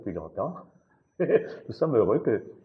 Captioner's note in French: rire